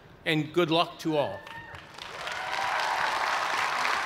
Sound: cheers and applause

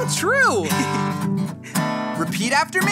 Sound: Marty giggles

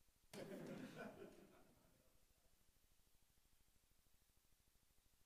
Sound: audience laughing

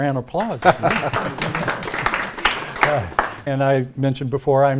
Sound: audience clapping

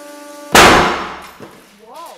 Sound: bang

